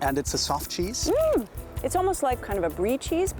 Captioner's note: giddy squeal